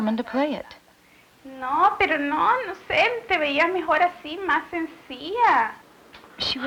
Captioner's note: speaking Spanish